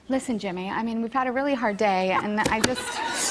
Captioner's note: laughter